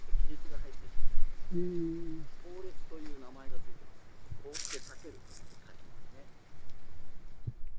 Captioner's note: frost crack